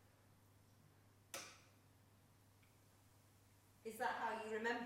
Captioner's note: lamp clicking